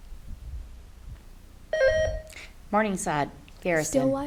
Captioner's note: buzzer beeps